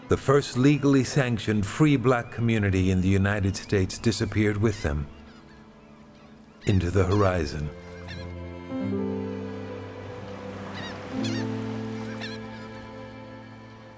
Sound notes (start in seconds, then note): 10.1 seagull calling